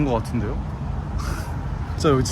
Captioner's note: laughs